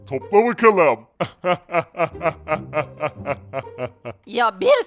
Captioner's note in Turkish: Gülme sesi